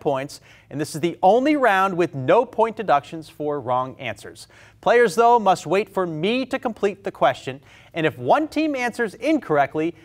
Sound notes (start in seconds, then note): none